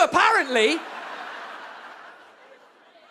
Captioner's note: audience laughs